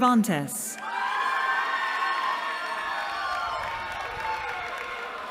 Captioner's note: cheering